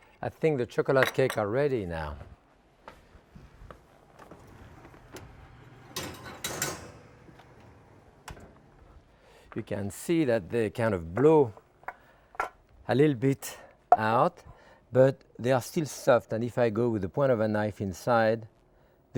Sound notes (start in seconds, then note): 5.9 tray clattering